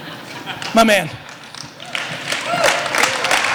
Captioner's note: audience laughter; applause